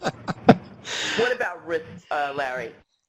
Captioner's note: laughing